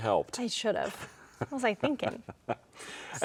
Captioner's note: chuckles